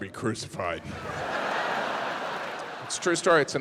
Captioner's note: audience laughs